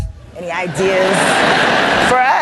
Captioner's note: laughter